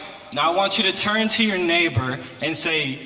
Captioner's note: crowd